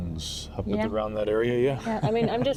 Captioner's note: laughs